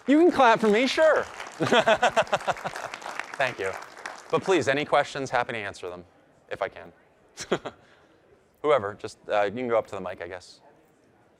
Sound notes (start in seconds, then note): 1.6 audience applauding; 1.6 chuckles